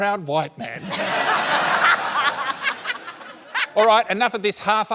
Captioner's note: laughter